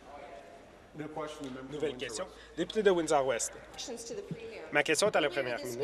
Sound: conversation din

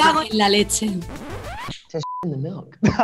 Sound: record scratching; beep

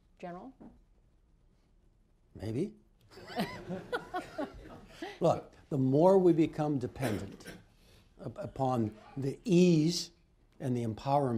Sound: laughter

